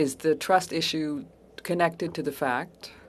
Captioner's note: speaking French